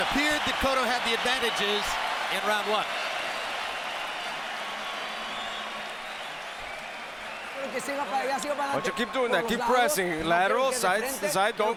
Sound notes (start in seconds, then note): 7.6 speaking Spanish